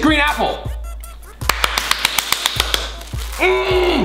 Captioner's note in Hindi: तालियाँ बजाता है